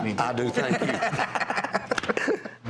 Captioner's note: laughter